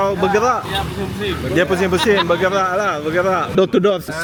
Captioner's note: laugh